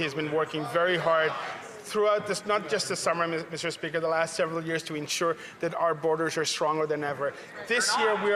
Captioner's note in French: voix de l'interprète